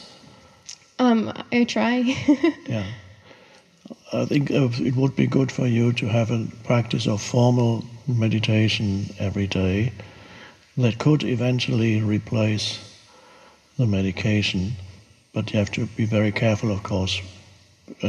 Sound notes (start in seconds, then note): 2.0 laughs